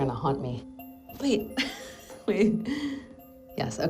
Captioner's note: chuckles